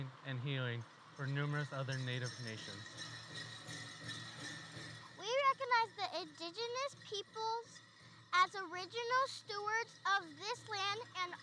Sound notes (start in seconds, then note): 3.7 bells jingling